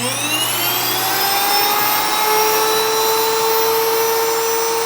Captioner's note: grinder whirring